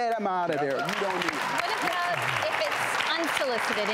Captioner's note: audience clapping